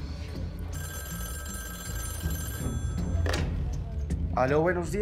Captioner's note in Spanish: Suena el teléfono